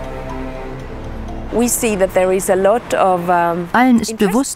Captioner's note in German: englisch